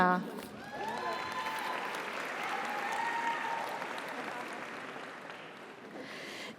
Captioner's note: audience cheers; audience applauds